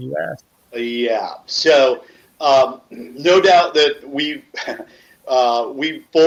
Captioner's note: laughs